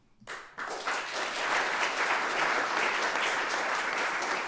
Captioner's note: audience applauding